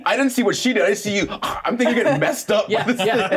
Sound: choking

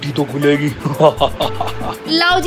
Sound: laughing

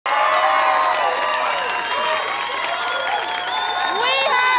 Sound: audience applause

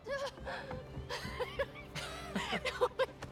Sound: laughs

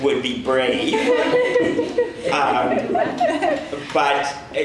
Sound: audience laughs

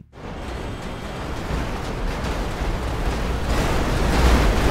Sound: train crashes

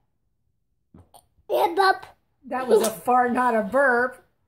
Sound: farts

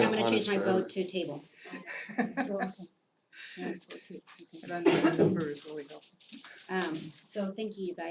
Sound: laugh

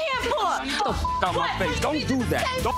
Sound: beeps

